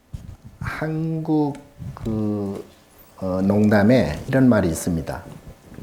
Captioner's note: speaking Korean